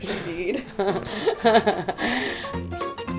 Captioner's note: Lilla laughing; playful upbeat music